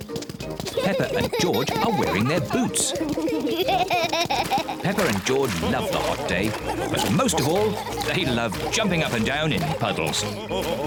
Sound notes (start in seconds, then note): 3.3 both giggle